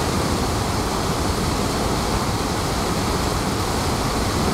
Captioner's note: waterfall sounds